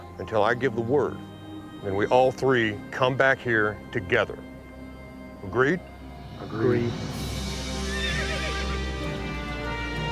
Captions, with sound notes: and we all three come back here together, agreed? - Agreed. - Agreed. (horse neighs)